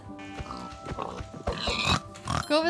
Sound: pig oinking

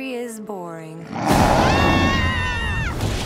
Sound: screaming

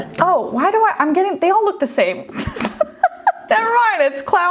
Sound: laughs

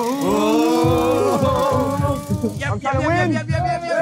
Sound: ratchet clanking; all cheering

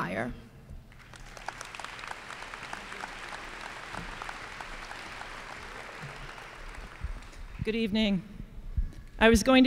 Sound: applause

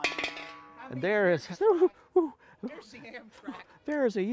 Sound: gasping

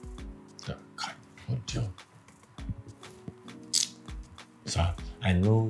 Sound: kisses lips

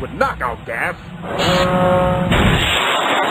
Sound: machinery whirrs

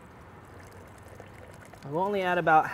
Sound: splashing

